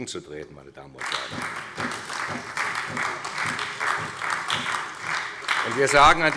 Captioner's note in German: Beifall bei der SPD